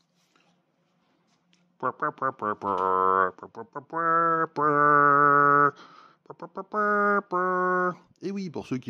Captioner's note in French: Musique mal bruitée à la bouche